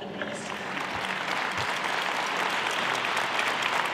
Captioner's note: applause